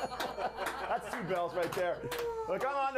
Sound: bell rings

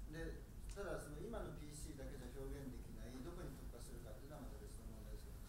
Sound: speaking in foreign language

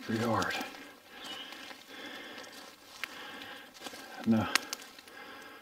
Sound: leaves crunching

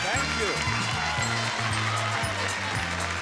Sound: audience cheering and clapping

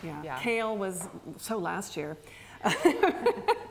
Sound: both laugh

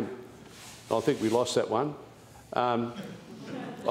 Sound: laughter

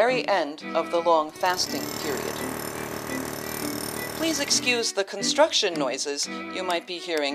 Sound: drilling noise in background

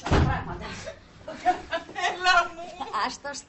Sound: crying

